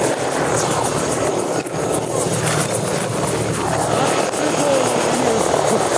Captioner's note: helicopter blades whirring